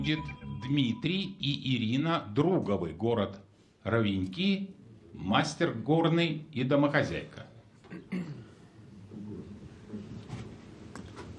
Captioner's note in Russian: откашливается